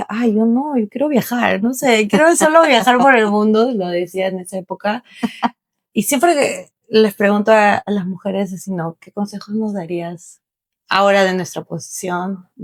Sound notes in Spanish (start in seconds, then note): 5.2 risas